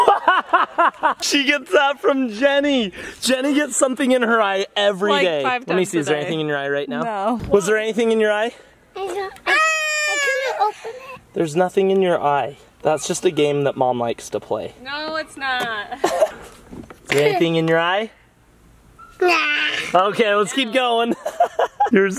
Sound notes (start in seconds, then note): 0.0 laughs; 9.4 yells; 15.9 laughter; 19.6 laughs